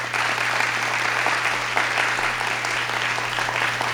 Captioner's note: audience claps